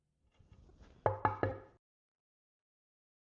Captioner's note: knocking sound